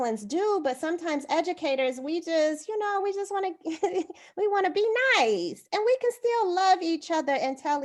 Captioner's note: laughter